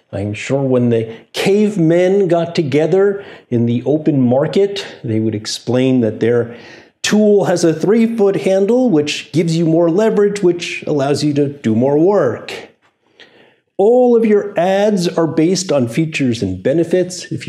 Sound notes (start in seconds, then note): none